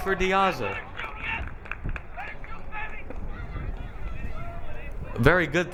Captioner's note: audience member yelling